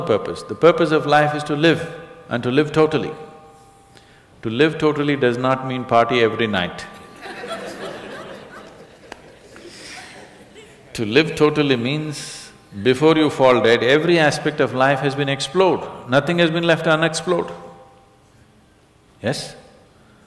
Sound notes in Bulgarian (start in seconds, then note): 7.0 смях